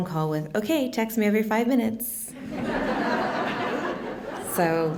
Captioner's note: laughter